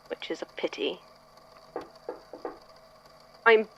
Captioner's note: knocking on door